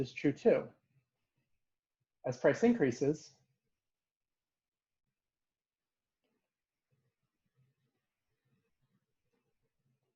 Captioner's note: pause